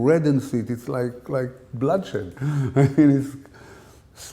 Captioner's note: chuckle